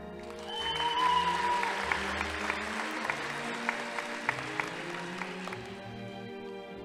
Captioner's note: audience applauding; crowd cheering